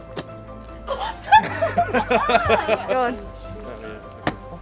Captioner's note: group laughing